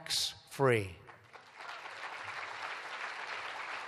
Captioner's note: applause